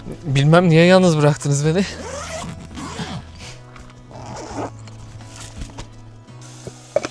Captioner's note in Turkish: homurdanır